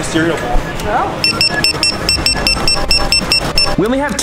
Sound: electronic beeping

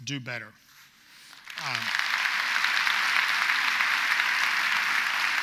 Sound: audience applauds

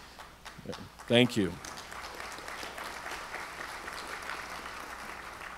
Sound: audience applauds

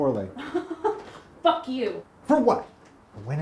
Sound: laughs

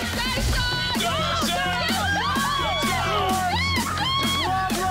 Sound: crowd cheering

